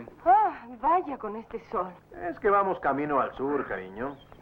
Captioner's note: drawling